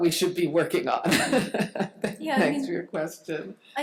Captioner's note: laughs